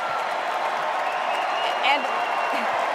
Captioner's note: cheers and applause